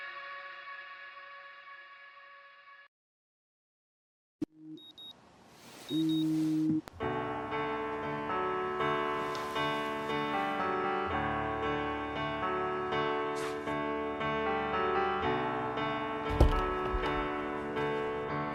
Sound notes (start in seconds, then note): 5.8 Max's Phone Alarm